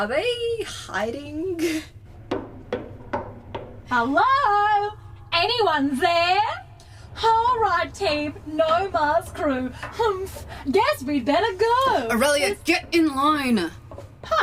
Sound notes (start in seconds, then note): 0.1 Aurelia clangs down the gangway, exaggerating her footsteps; 4.1 loud and jokingly